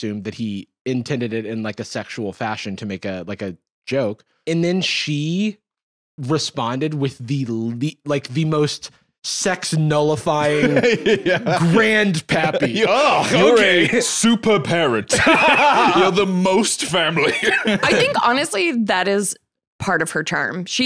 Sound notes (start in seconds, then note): 14.7 laughs